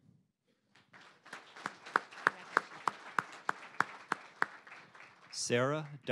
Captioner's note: applause